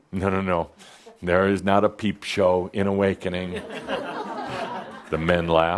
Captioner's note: some chuckles